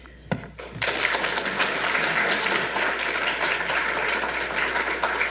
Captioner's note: audience applauds